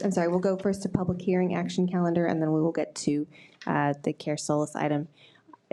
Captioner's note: none